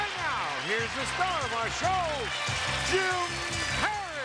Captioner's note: cheering